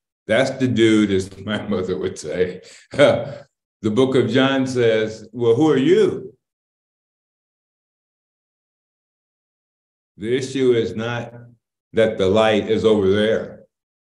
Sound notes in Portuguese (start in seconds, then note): 2.8 Risos